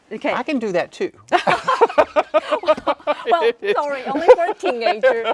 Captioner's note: both laughing